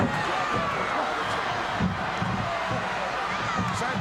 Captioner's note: gorilla speaks faintly